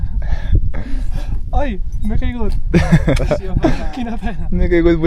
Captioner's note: laughs